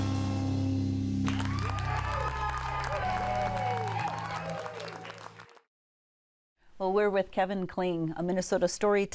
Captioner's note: cheering